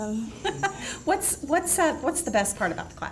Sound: laughs

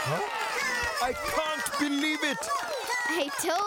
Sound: chanting

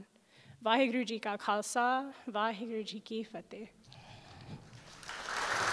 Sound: speaking in a foreign language; audience clapping

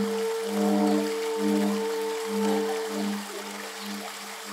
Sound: water flowing

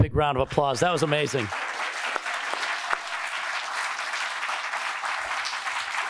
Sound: congregation clapping

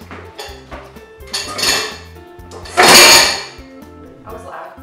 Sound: dishes clanking sound

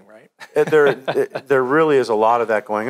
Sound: laughing

